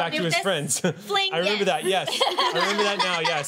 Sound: laughing

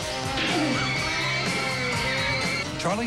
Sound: shrieking

